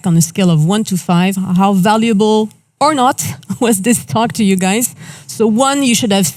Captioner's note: chuckles